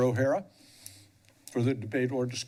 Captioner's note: pause